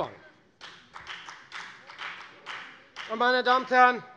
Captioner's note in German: Beifall bei der FDP